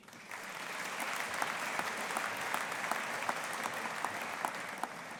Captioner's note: audience applauding